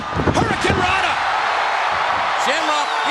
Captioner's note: crowd cheering